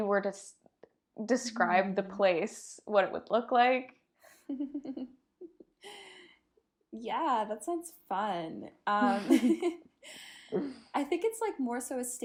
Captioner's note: giggles